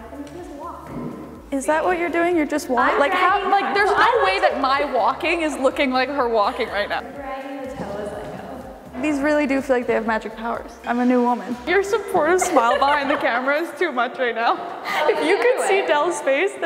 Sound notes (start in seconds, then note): 12.2 laughing